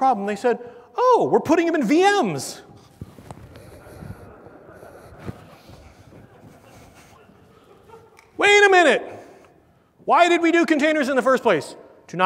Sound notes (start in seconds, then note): 3.0 laugh